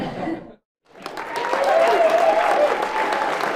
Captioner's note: audience applauds